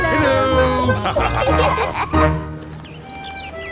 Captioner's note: laughter